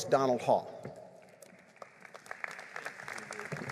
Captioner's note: applause